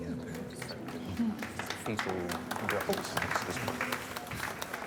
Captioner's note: light applause